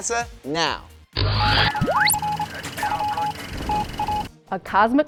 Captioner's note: sound Effects